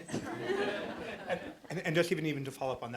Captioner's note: audience laughs